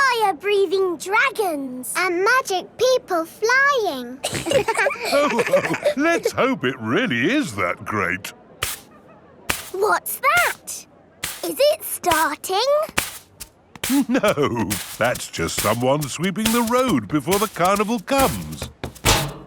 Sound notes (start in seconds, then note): 4.2 all laughing; 9.5 brushing